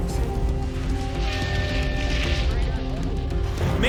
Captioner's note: tone beeps